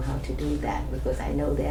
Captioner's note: none